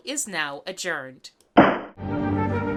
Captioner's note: gavel